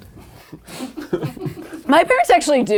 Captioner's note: people laughing